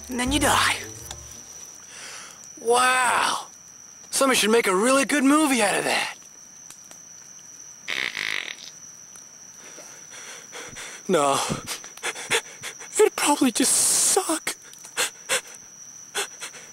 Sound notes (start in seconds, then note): 5.9 fire cracking; 7.9 farting noises; 9.8 inhaling and exhaling loudly; 16.2 inhaling and exhaling loudly; 16.5 crickets stridulating